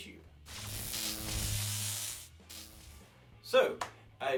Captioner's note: electric buzz